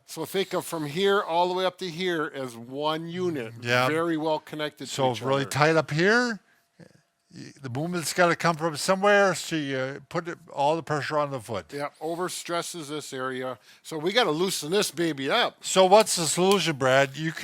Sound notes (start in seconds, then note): none